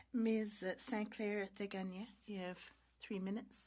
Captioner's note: speaking French